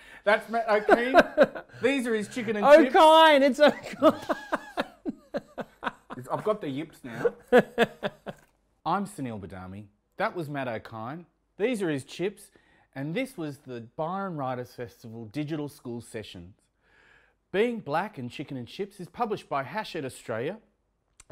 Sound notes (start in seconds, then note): 3.5 laughs